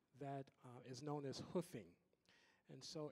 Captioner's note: none